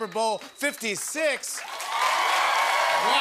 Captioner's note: cheers and applause